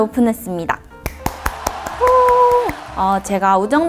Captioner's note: clap~! / *clap clap